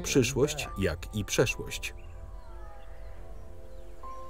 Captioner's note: birds chirping